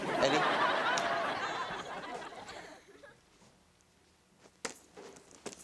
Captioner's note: snaps